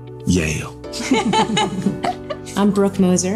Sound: laughing

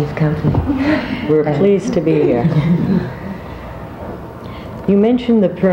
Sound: laughs

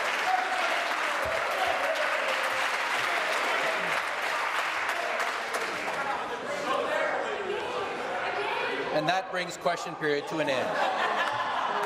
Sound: some Applause

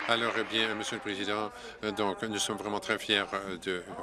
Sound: applause

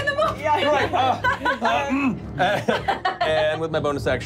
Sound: laughing

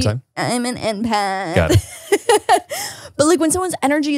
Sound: laughs

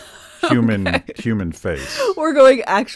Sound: laughing

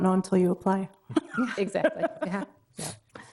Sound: laughing

